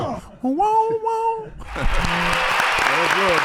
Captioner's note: imitating siren; everyone applauds